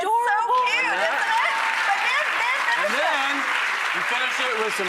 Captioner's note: applause